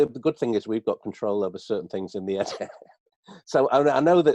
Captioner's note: laughs